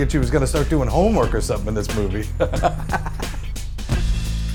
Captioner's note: laughs